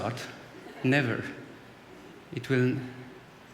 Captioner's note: laughter